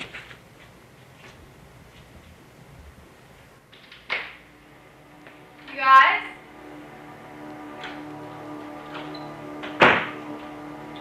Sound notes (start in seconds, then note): 3.7 door opening; 9.8 door closing